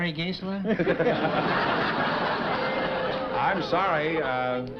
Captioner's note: chuckling